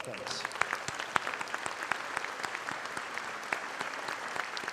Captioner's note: audience applauding